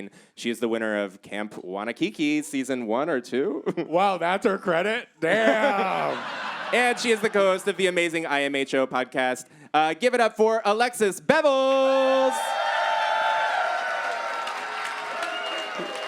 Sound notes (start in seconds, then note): 11.8 audience cheers